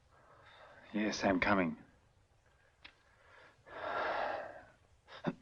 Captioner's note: exhales sharply